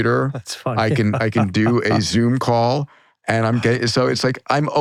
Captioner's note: laughs